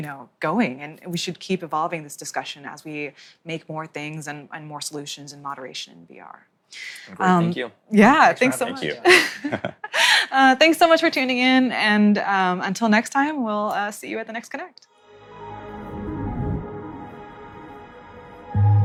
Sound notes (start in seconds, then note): 11.0 laughs